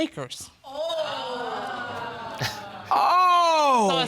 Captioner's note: all exclaiming